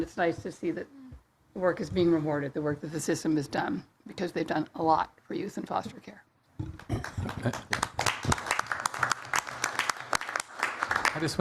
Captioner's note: applause